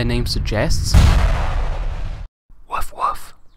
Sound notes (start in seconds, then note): 0.9 impact sound